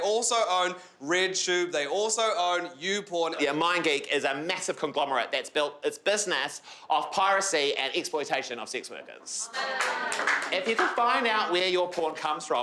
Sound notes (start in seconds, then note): 9.5 crowd jeers